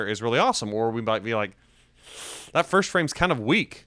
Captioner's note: air hisses between teeth